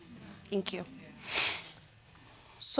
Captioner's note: sniffs